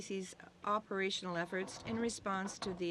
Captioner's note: speaking French